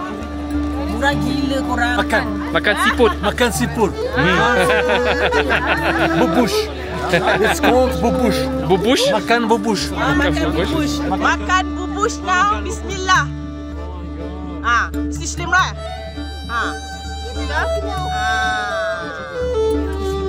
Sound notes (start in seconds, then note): 4.0 laugh; 14.6 speaking German